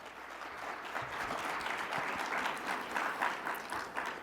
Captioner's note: audience clapping